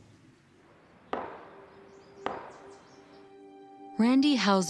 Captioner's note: gavel banging